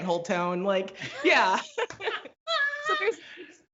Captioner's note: both laugh